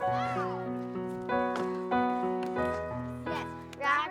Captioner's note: children playing/yelling